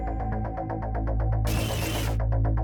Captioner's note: glitching noise